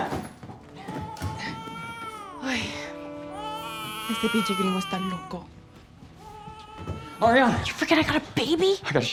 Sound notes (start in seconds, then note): 3.9 speaking spanish